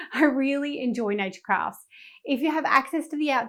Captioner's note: chuckling